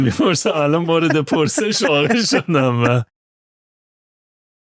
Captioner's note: laughter